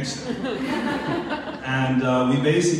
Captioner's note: laughing